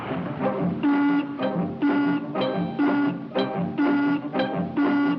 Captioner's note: car explodes; horn honking